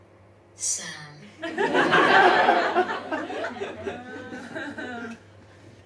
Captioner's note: audience laughs